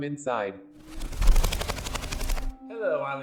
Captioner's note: wings flapping